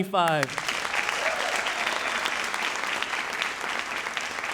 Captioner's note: audience applauding